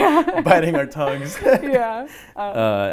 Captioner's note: laughing